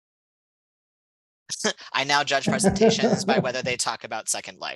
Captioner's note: laughter